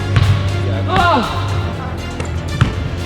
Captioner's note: upbeat orchestral music; player grunts loudly; ball bounces